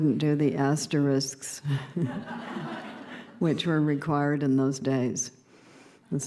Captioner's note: laughter